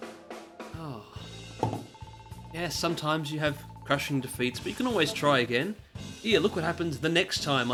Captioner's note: sigh